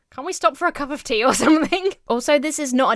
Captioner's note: Emma laughs